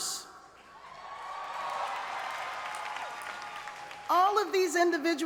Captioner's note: cheers and applause